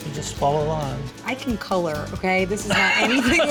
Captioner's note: laughing